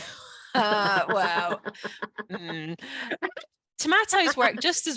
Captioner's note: laughing